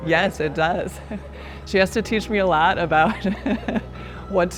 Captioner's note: laughing